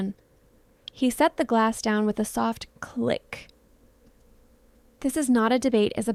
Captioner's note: click